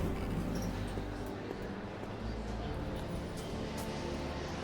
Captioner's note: people chattering